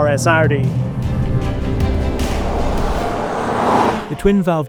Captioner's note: vehicle revs; upbeat music continues